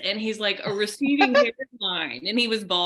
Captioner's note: laughing